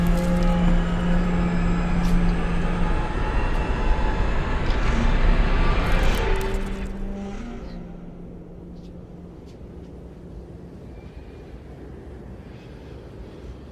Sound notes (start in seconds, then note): 3.3 trees rustling; 7.5 ominous music